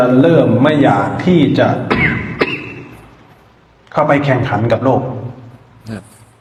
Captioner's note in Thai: เสียงไอ